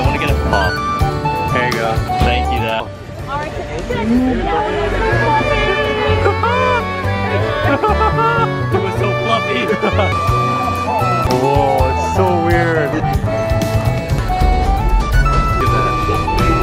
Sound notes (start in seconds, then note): 6.5 happy noises